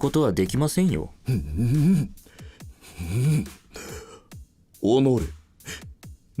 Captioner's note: angry noises